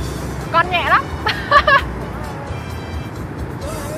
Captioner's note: laugh